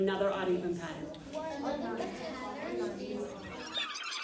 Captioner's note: students talking with partners